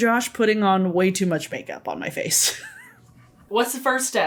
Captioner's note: laughs